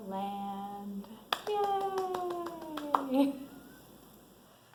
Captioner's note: claps hands